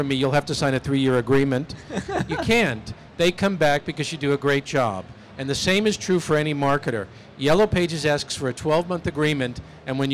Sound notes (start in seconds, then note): 1.8 laughter